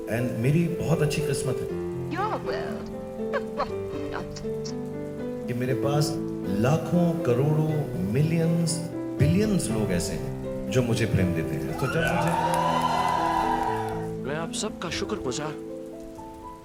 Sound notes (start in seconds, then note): 11.6 audience Cheers